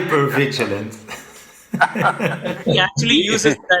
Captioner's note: laughter